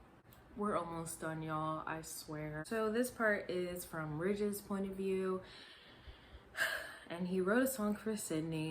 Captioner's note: sigh